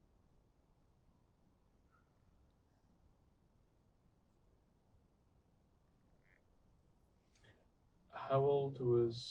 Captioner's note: pauses 8 seconds